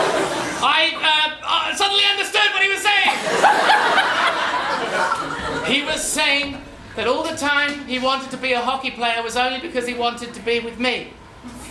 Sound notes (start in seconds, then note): 3.0 bursts out laughing